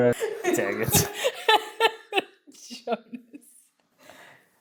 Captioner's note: laughter